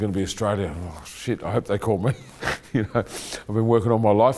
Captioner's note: laughing